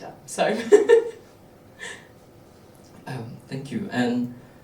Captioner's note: panellist laughing